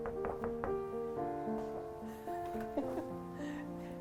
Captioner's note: door knocking; woman laughs